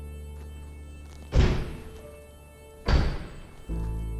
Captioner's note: doors slamming